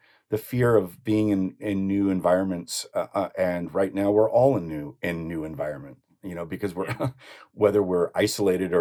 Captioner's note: laughs